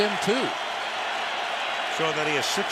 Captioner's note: cheering